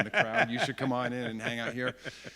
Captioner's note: laughs